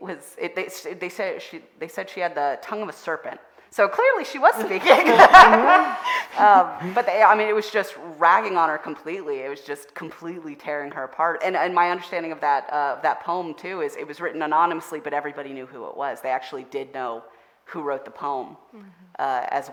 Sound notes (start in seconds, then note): 4.6 all laughing